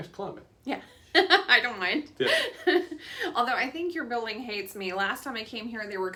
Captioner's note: laughs